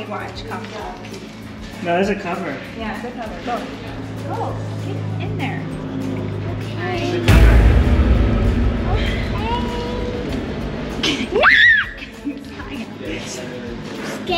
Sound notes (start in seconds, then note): 7.2 dramatic sound effect; 11.4 screams